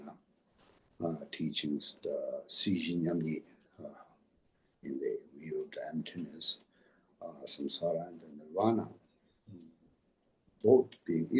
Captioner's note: tibetan